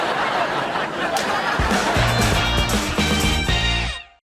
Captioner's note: laughs